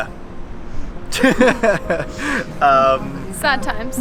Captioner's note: laughs